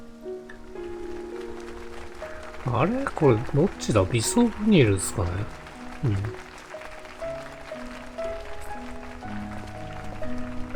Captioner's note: applause